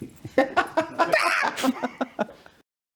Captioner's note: laughing